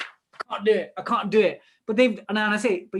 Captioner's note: ruffles paper